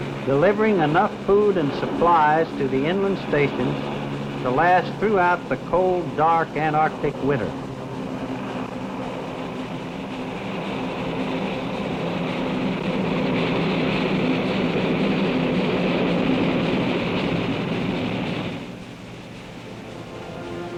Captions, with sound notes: delivering enough food and supplies to the inland station to last throughout the cold, dark Antarctic winter. (plane engines roaring)